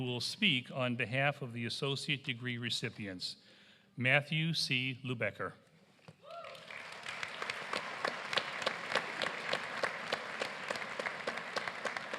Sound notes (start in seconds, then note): 9.7 applause